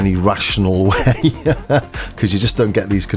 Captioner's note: laughs